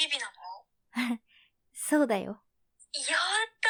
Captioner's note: soft laugh